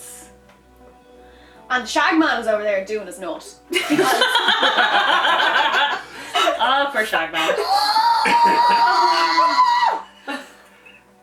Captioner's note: laughter